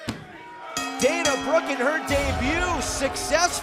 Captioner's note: bell rings